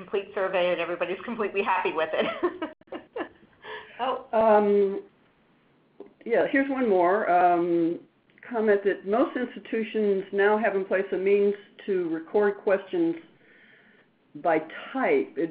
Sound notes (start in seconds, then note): 1.8 laugh